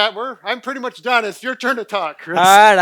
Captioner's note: laughing